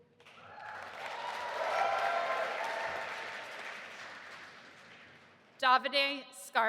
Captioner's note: audience applauding and cheering